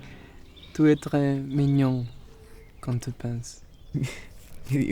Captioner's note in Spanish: en francés